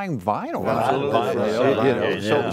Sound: affirmative mumble

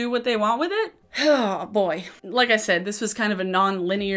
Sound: sighing

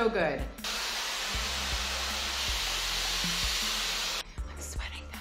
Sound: air blowing loudly

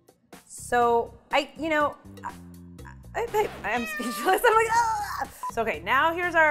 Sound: stammers; laughs

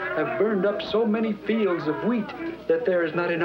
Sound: none

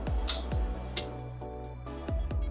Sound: blows kiss; relaxing ambient music

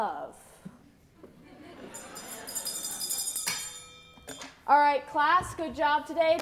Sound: A sarcastic laugh

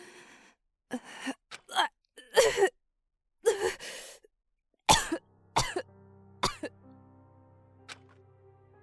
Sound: cough

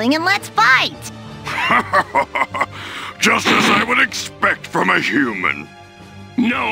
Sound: evil laugh

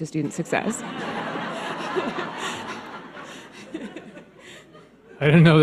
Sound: audience laughs

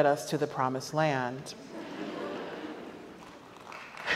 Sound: audience laughs; audience applauds

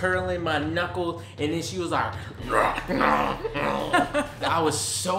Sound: growls

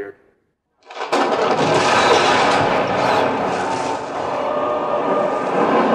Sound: crashing sounds

